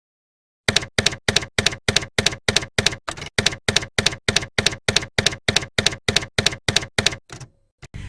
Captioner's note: typewriter keys clacking